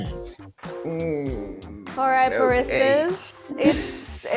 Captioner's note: groans